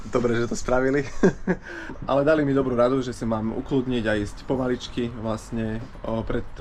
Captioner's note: chuckles